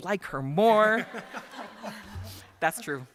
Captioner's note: laughter